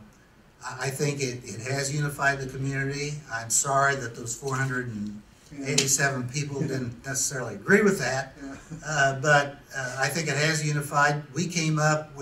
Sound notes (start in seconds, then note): 6.4 chuckles